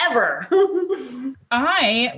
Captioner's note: chuckles